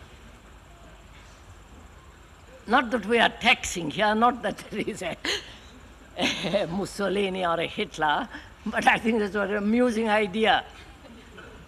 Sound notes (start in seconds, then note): 6.2 laughs